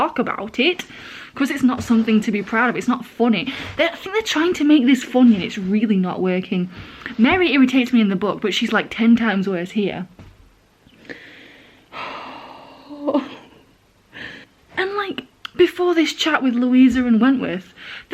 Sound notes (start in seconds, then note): 11.0 sighs then laughs with more regret